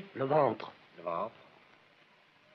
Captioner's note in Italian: lingua francese